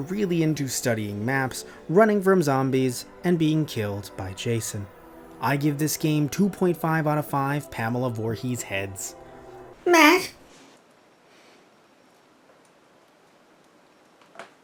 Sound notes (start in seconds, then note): 9.9 worried